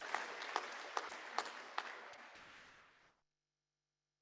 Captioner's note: applause